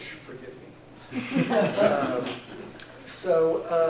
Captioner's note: laughter